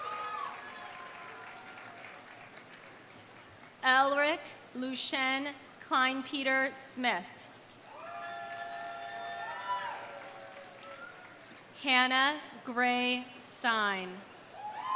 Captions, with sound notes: (audience cheers) (audience applauding) Ellric Lushen Klein Peter Smith. (audience cheering) (audience applauding) Hannah Grae Stein.